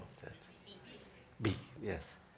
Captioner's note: crowd